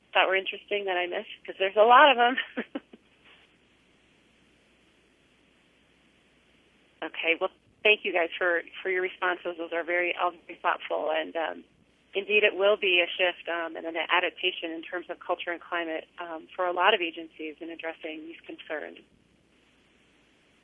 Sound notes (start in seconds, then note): 2.3 laughter